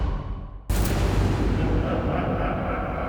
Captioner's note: ominous music; ghostly laughter